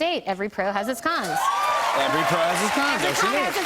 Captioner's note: cheers and applause